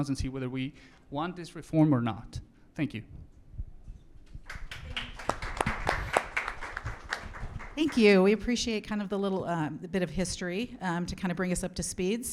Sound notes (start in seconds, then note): 4.4 audience applauds